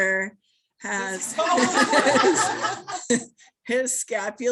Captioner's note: laughter